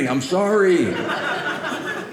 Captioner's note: audience laughing